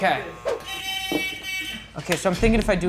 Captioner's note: hooter buzzing